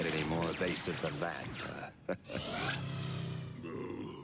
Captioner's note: laughs